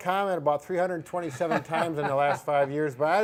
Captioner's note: laughing